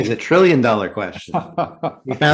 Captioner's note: laughs